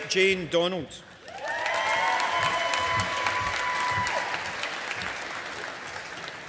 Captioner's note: audience applauding